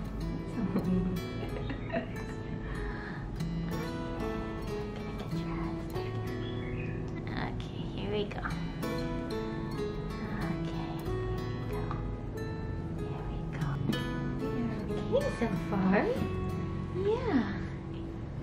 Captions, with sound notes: (laughing) (whispering) Gonna get dressed! Okay, here we go Okay, here we go... Here we go... You're okay so far! Yeah!